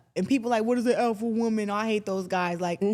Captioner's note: none